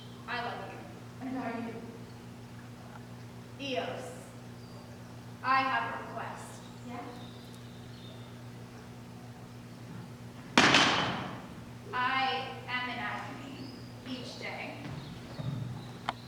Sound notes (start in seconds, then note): 10.3 cane clatters